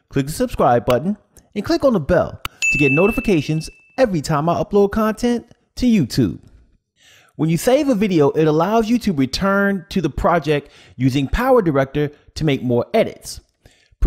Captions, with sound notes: click the subscribe button and click on the bell (bell dings) to get notifications every time I upload content to YouTube. When you save a video it allows you to return to the project using PowerDirector to make more edits.